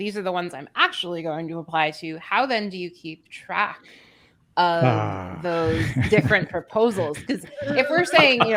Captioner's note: laughter